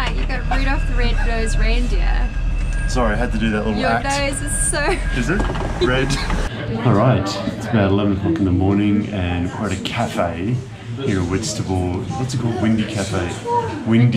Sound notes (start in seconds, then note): 4.8 laughs